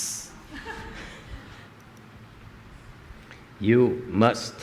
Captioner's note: laughter